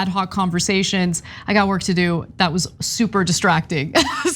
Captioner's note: laugh